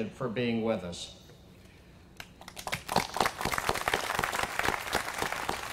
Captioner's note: applause